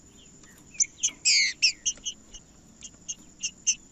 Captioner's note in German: trinca ferro cantando